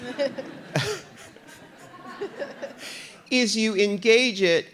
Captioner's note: RuPaul laughs